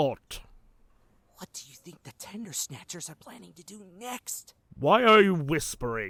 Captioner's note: whispering